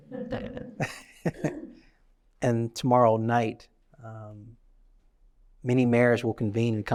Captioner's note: laughs